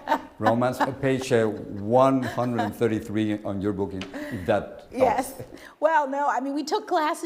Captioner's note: habla en ingles